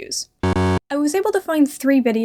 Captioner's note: Final Fantasy VII cursor error sound